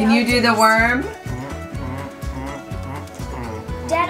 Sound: dad humming

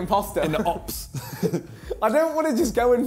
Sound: laughs

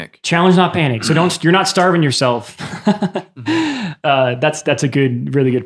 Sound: laughs

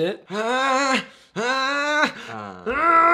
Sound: angry breathing

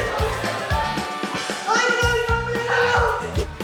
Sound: they end up laughing

